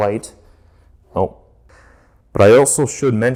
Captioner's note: slow sigh